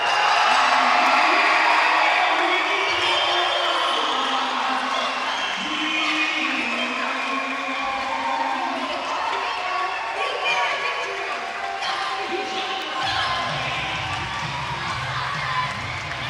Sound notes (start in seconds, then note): 0.1 bell rings; 2.5 upbeat music; 12.4 audience cheering